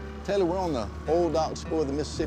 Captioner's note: none